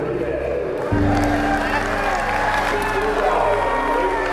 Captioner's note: chanting; cheering